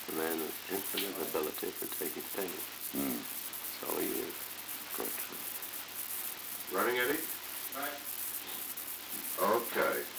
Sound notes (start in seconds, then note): 0.2 Truman, mumbling; 6.2 production chatter